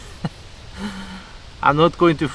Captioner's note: laughter